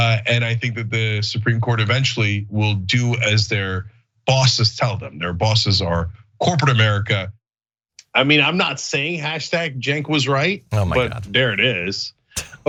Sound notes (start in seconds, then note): 10.7 laugh